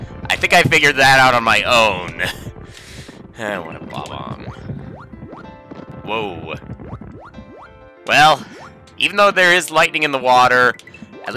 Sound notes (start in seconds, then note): 2.6 sigh